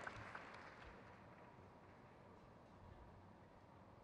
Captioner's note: crowd claps